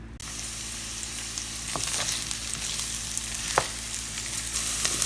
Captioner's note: sizzling